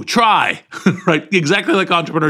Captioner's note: laugh